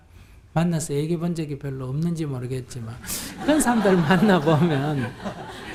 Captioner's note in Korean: 청중 웃음